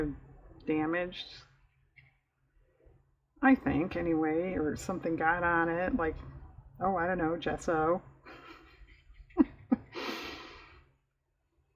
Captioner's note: laughs